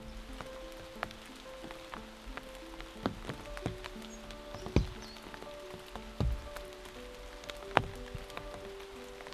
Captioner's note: raindrops falling